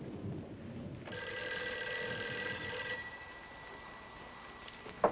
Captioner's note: phone rings